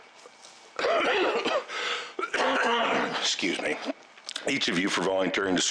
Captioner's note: coughs